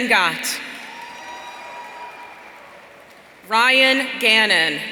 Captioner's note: audience cheering